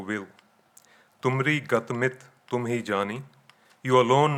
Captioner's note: speaking in foreign language